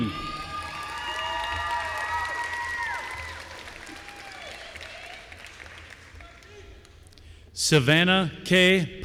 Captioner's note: applause